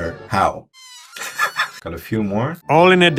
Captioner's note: laughs